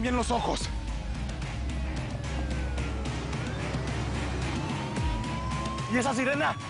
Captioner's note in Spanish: Sirena distante